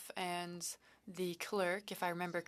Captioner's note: speaking French